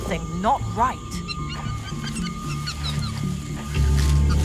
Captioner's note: orangutan squeaking; orangutans squeaking in fear; scary music